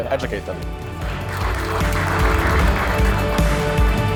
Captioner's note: cheering and clapping